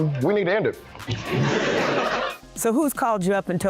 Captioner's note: laughing